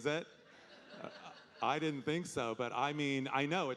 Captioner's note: audience laughing